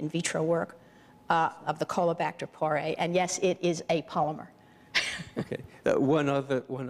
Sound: chuckles

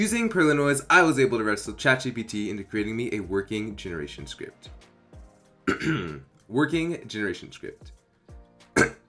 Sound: cough

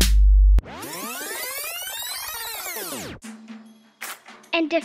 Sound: rewinding squeak

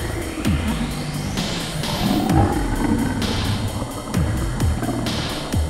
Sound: gross grumbling

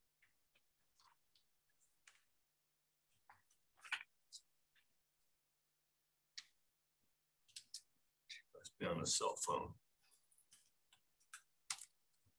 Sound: audio cut out

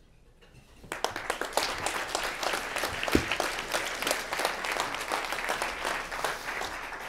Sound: applause

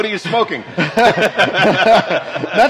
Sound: laughs

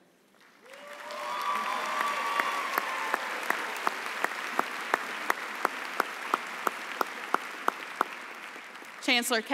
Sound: applause

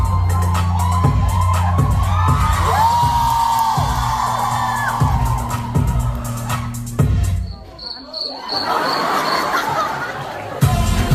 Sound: ปรบมือ

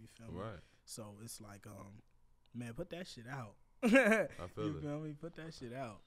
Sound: laughs

